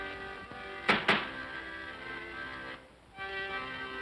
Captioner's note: bangs on desk; accordion plays